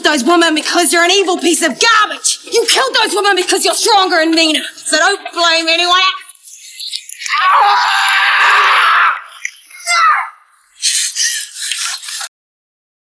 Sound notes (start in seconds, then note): 7.2 Graham screams; 9.8 Jodie yells